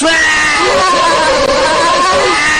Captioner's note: Spongebob & Patrick laugh type shit